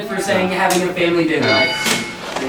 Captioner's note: ding!